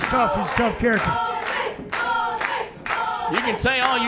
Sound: crowd

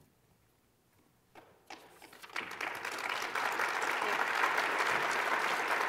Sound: applause

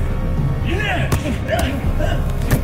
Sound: explosive Grunt

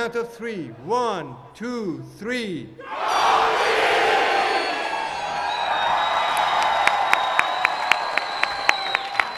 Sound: cheering

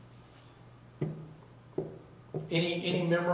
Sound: table knocking

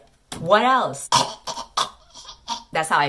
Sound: choking

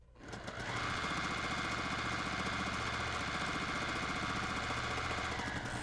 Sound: sewing machine whirs faster

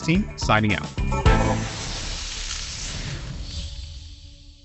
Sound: graphic sizzling

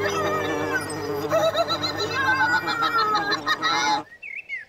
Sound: giggling

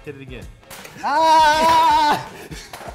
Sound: snapping sound

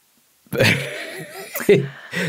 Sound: both laughing

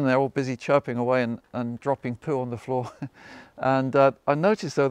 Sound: chuckles

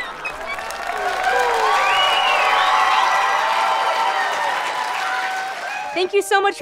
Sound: high-pitched wimpering; audience clapping and cheering

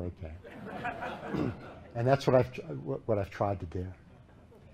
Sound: laughter

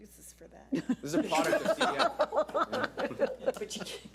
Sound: board laughs

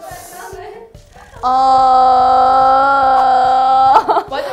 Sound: vibration

